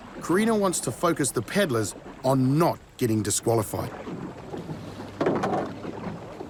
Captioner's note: none